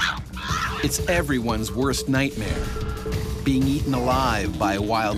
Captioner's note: voiceover